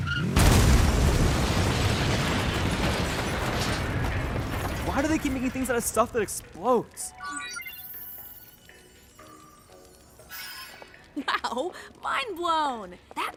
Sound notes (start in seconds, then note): 0.1 explosion; 6.9 digital chimes